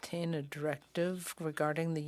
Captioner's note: speaking French